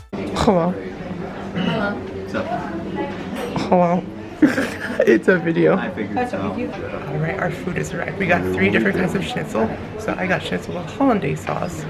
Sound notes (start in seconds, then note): 1.9 clears throat; 4.4 lols